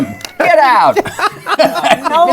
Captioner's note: laughter